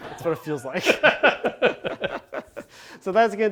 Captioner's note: laughs